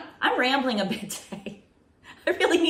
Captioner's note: chuckles